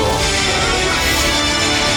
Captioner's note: laughing